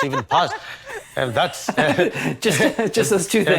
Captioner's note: laugh